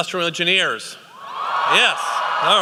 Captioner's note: cheering